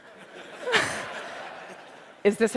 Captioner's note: laughter